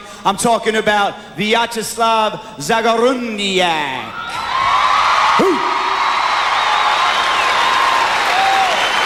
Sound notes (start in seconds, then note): 4.2 crowd applause